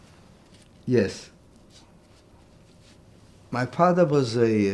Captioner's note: wiping nose